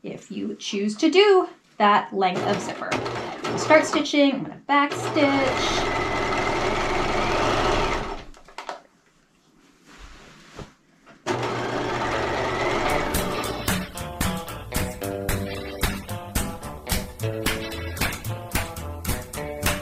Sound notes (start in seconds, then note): 6.7 sewing machine humming; 12.6 bright music